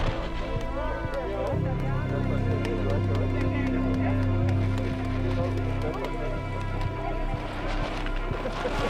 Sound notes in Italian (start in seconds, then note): 0.8 chiacchierio del pubblico